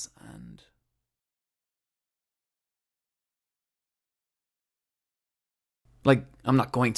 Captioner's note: silence